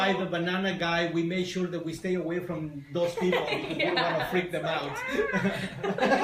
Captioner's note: laughter